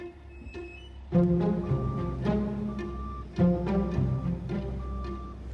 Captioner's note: machinery beeping